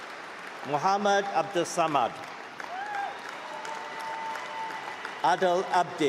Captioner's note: applause